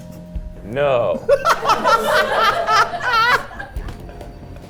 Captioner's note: tense music; everyone laughing; tense music